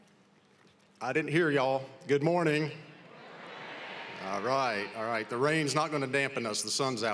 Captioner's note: applause